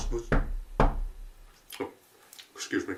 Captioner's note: knock, knock, knock